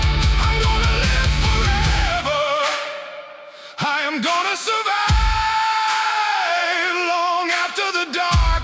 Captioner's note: screaming